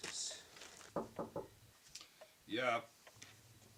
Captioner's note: knocking